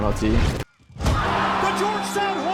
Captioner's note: crowd cheers; whistle blows